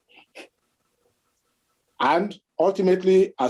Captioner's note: chuckles